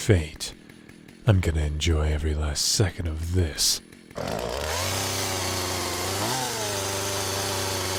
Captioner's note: chainsaw noises